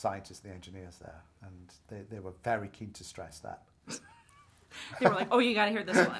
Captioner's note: laughs